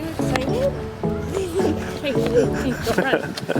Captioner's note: laughing